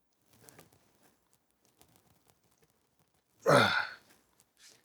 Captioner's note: silence